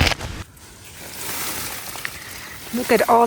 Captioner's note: rustling sleeping pad